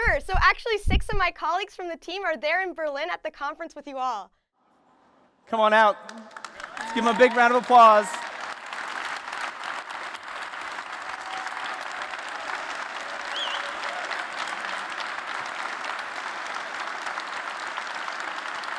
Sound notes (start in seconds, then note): 8.3 applause; 13.2 whistling